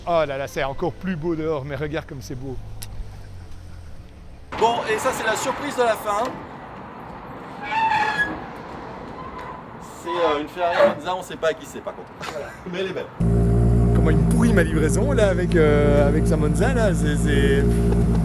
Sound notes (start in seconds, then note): 7.7 doors creaking